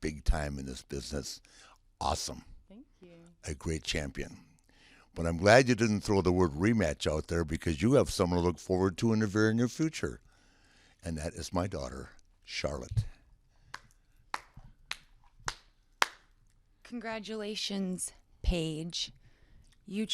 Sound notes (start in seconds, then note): 16.0 clapping